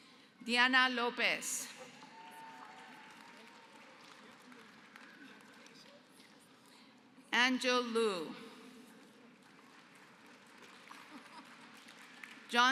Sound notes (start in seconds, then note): 1.8 applause; 8.9 applause